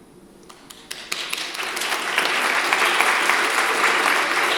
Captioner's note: audience applauds